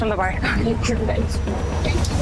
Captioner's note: mutters